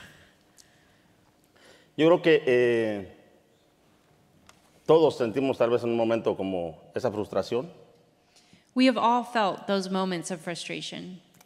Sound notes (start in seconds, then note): 2.0 speaking in Spanish